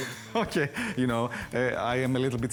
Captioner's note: laughs